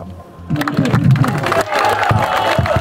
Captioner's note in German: Applaus